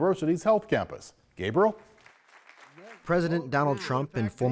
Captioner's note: audience applauding